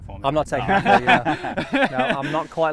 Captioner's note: laughing